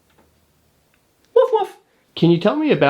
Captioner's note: imitates barking